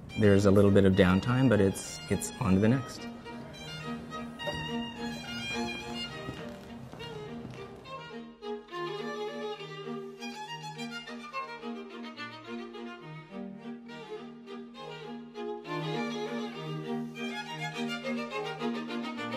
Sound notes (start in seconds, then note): 5.7 shoes clack